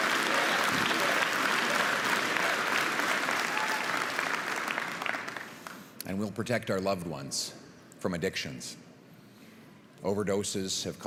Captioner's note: Crowd chanting "Pierre"